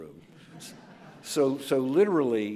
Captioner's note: audience laughs